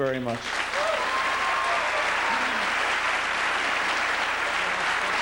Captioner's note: applause